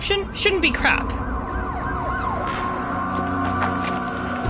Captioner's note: siren blaring